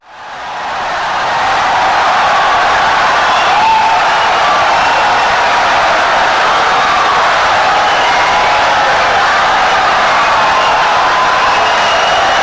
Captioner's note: wild applause and cheering for 17 seconds